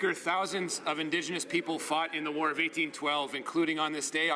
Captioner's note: speaking French